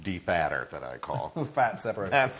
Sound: laugh

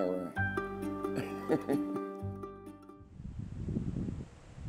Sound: laughing

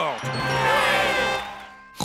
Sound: crowd cheering

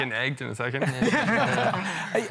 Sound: laughter

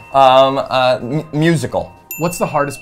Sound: bell dings

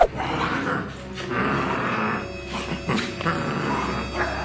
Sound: growling

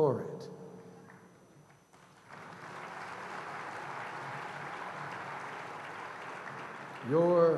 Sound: applause

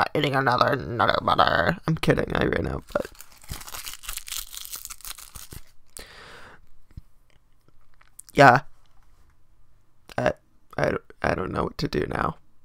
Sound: crinkling

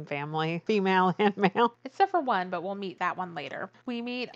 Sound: laughs

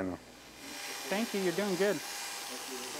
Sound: buzz

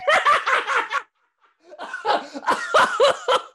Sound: Walter laughs

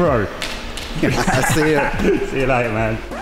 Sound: hearty laughing

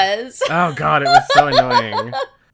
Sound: laughs

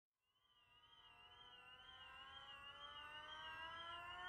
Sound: alarms wailing

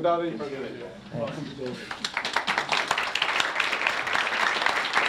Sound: applause

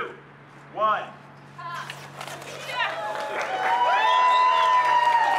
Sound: cheers

